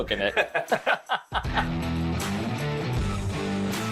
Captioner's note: both laughing